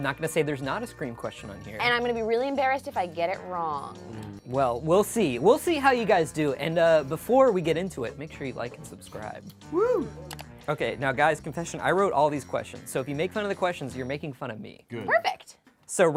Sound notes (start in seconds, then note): none